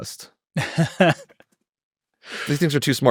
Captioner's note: laughing